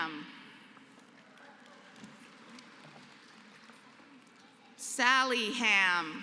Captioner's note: applause